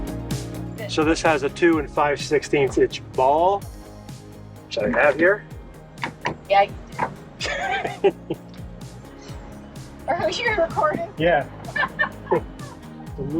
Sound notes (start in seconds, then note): 11.5 laughs